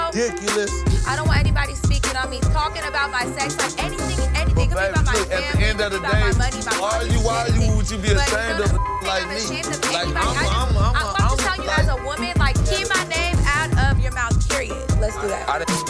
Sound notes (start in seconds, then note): 8.1 beep